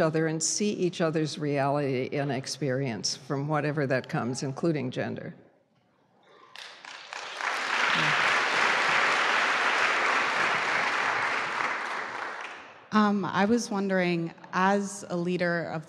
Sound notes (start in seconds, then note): 6.4 applause; 13.3 voiceover